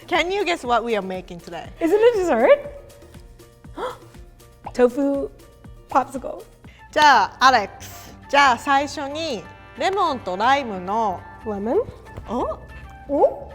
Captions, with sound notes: Can you guess what we are making today? - Isn't it dessert? (gasps) Tofu popsicles. - Lemon?